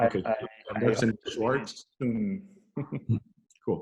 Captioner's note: giggles